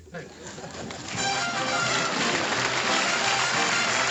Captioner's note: applause